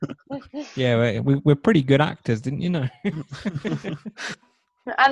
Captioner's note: everyone laughs; laughs